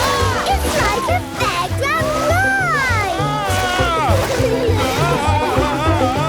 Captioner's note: screams, laughs; screams, laughs